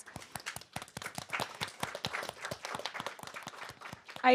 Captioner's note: audience applauds